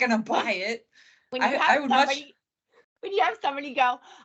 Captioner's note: laughing